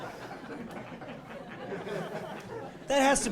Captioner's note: laughing